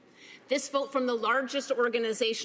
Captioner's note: none